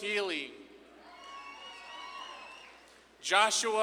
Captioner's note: audience claps and cheers